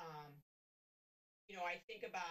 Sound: none

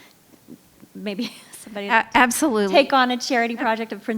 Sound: laughing

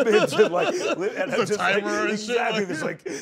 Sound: laughs

